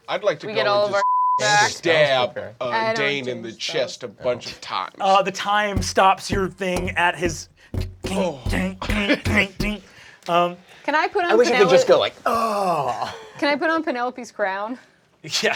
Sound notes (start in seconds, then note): 1.3 beeping; 5.7 bumping against glass